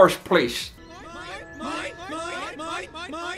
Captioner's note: seagulls